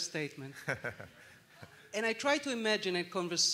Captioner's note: laughter